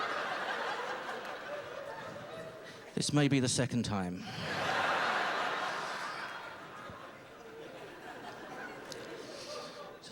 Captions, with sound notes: This may be the second time. [howling laughter]